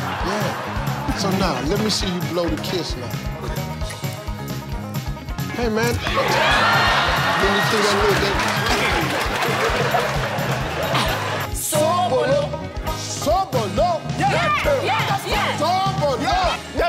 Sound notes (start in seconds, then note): 0.0 crowd laughing; 5.8 crowd cheering; 10.1 crowd laughing